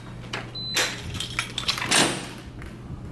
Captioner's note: beeps